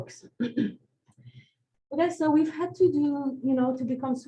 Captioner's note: clears throat